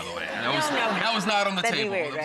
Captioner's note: audience laughs